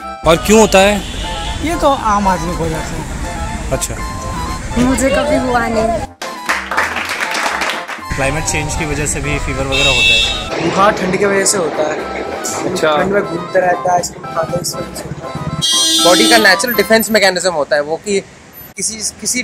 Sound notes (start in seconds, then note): 6.2 claps